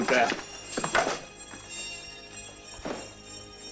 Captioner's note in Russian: звонок